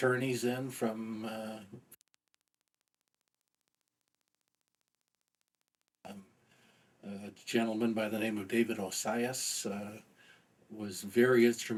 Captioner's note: audio interference